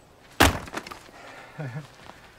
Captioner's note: jacket rustling; wood splitting; Ben chuckles